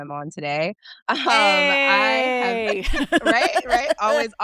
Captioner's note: chuckles